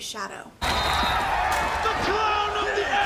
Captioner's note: whistle blows